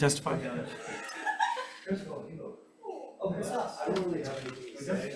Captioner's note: audience indistinct chatting